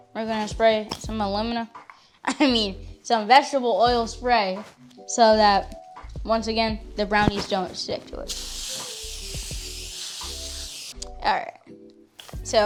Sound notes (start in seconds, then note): 8.2 can spraying